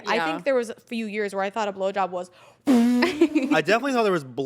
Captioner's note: blows air